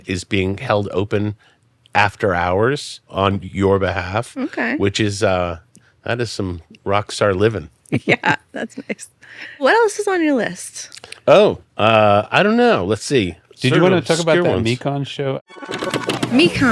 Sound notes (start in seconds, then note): 7.9 laughs